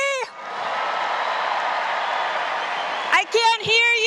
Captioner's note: audience cheers